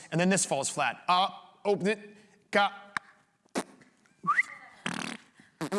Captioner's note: whistles